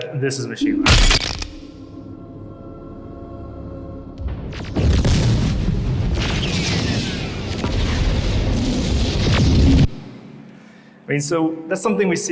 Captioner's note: laser sounds